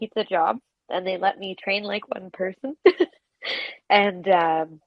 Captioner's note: laughs